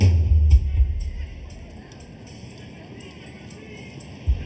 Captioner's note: slow tempo suspenseful music; group chattering